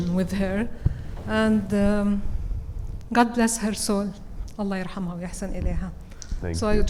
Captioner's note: speaks Arabic